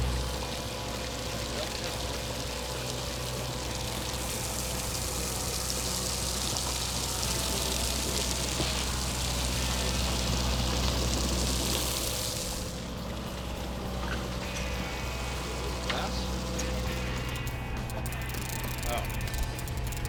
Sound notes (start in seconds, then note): 0.7 water splashing; 6.5 reel clicking